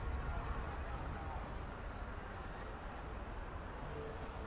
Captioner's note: crowd noise